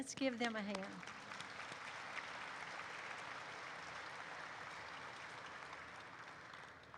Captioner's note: audience applauds